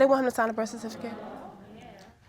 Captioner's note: audience exclaims